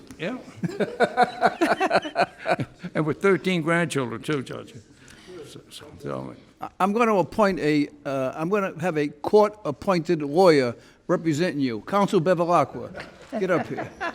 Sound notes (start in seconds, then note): 0.5 laughing